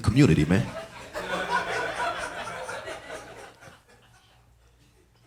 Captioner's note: audience laughing